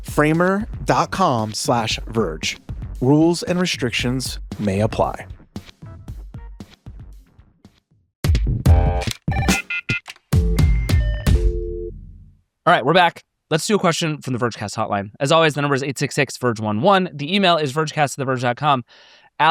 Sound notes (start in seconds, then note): 5.4 lively music; 8.3 quirky music; 9.3 telephone beeping